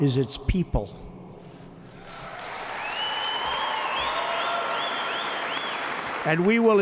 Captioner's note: applause